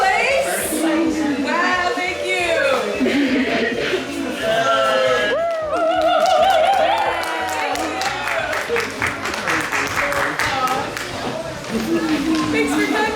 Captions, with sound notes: First place? Wow. Thank you. (friend chuckles) (friends cheering) Thank you. (friends applauding)